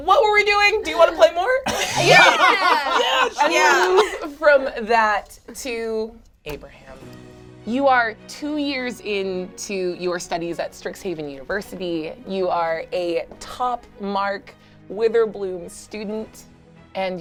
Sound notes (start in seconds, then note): 1.7 all laugh